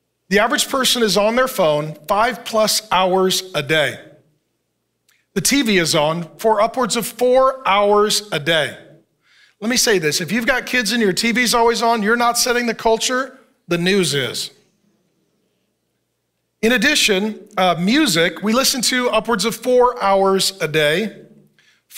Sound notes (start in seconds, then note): none